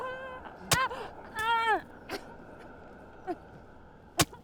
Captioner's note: knife stabbing